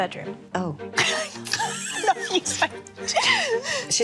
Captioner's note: laughing